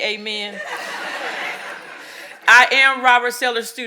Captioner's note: audience laughing